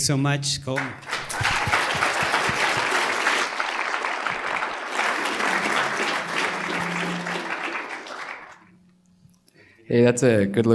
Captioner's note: applause